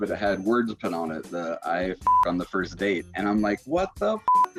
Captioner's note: beep